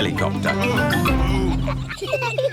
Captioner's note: daddy pig groans